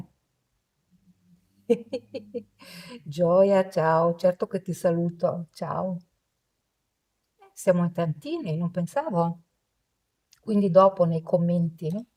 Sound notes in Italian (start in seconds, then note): 1.7 risate